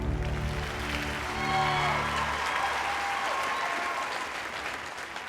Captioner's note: applause